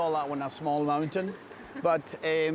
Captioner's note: all chuckling